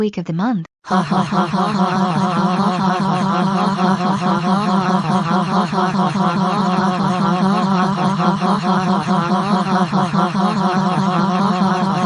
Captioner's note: laughs